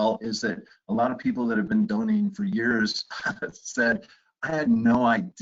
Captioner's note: chuckles